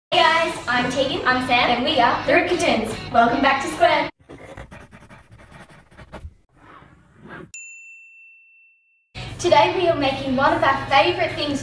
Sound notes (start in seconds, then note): 7.5 bell rings